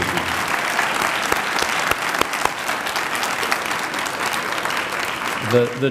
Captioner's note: applause